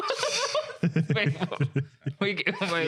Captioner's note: both Laughing